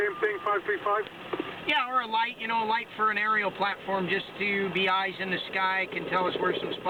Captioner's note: radio traffic